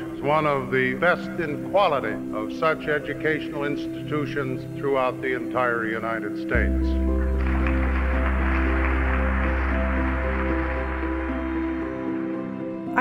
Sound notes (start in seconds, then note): 6.8 applause; 11.4 inspiring music